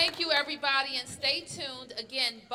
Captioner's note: applause